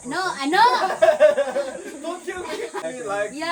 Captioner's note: everyone laughing